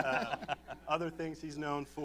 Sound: laughter

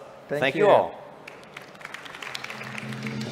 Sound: audience applaud; dramatic music

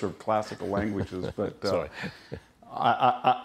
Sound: laughter

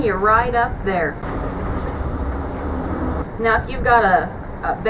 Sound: truck engine running

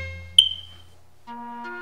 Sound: smoke Alarm Chirps

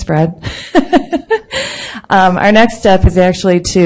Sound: laughs

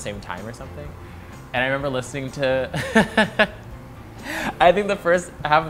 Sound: laughs

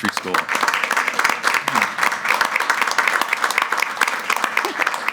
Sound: everyone claps

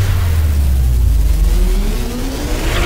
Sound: whizzing

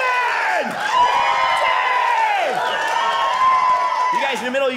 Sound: audience cheering

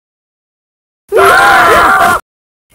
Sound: screams

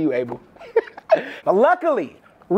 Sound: laughs

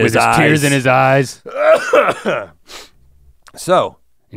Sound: Rhett coughs

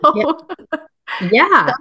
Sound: laughs

